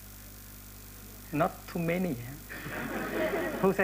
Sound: laughter

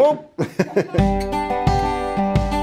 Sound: laughs; sentimental music

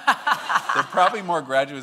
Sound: laughing

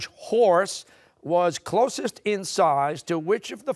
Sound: none

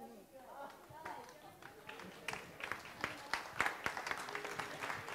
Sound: audience applauds

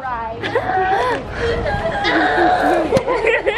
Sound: laughing

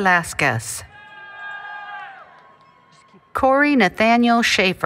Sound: applause, Cheering

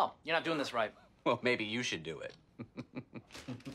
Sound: laughs

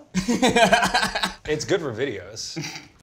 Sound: Ned laughs; Zach laughs

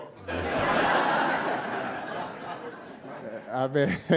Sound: audience laughing

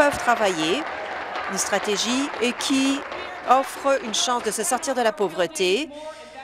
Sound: applause

